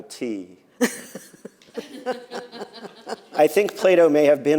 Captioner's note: laughter